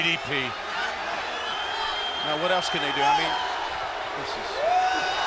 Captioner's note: crowd chatter